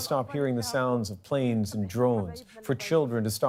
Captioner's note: speaking alternate language